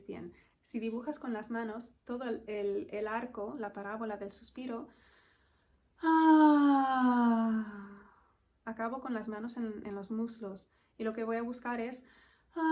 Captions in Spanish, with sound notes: me veis bien-- si dibujas con las manos todo el arco, la parábola del suspiro [suspiro] acabo con las manos en los muslos y lo que voy a buscar es